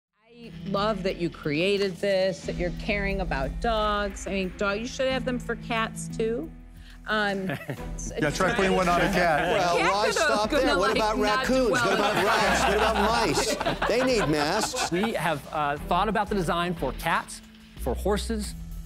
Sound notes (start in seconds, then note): 7.5 both chuckle; 11.6 laughter